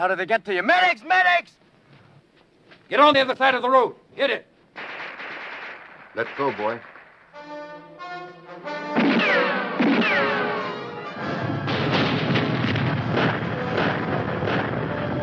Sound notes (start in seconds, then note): 4.7 guns firing; 7.8 tense music; 9.0 bombs exploding; 9.0 guns firing